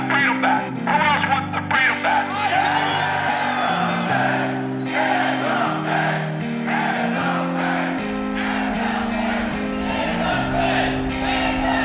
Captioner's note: cheers; chanting "end the fed"